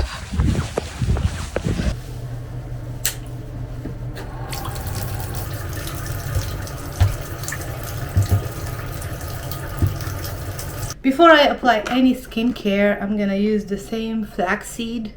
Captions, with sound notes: (water splashing) Before I apply any skincare, I'm gonna use the same flaxseed